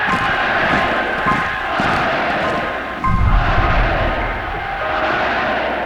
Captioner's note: crowd cheering; footsteps marching; crowd chanting